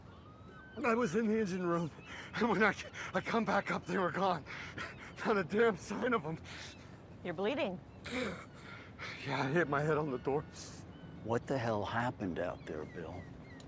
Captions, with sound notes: - I was in the engine room and when I come back up, they were gone. (gasping) Not a damn sign of 'em. - You're bleeding. - (groans) Yeah, I hit my head on the door. - What the hell happened out there, Bill?